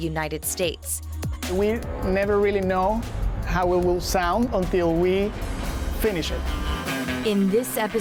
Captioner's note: male Voice